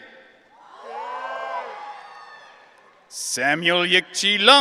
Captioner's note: audience cheering